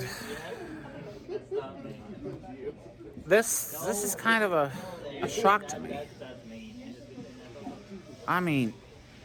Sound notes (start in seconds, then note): 6.1 Students chattering at Purdue Fort Wayne's Walb Student Union